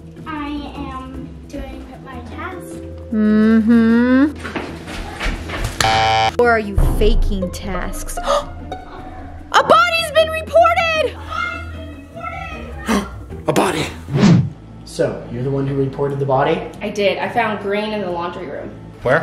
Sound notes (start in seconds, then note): 5.8 button punching